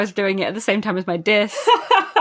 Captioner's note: laughs